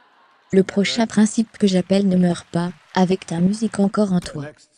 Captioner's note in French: Rires et applaudissements